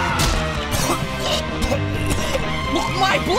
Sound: screaming; vomiting

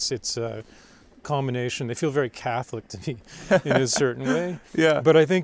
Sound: laughs

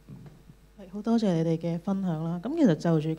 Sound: Cantonese

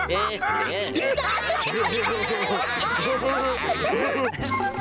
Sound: laughing

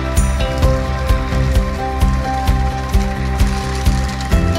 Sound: applause

